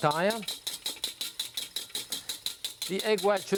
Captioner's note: whisk tapping